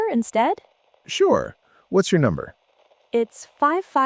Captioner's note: tech support voice